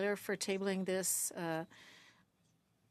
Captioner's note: speaking French